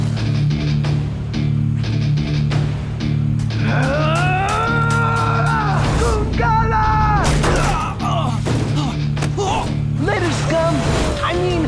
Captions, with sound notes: [grunting] Goongala! [grunting] Later, scum! I mean, hun.